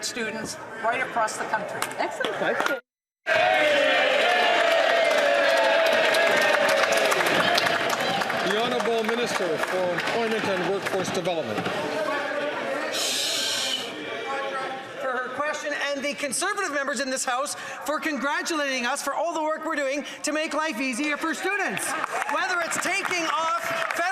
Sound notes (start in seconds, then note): 11.8 some Applause